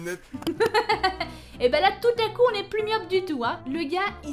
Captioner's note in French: rires